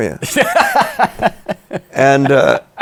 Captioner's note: laughs